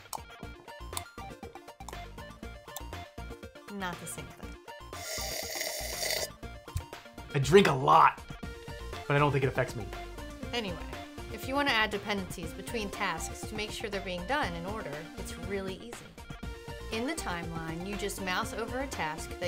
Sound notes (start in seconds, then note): 5.0 slurping